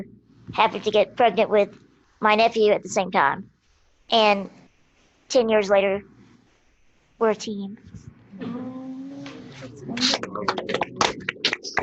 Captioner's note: applause